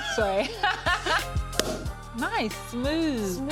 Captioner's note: both laugh; cork pops